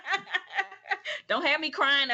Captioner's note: laughter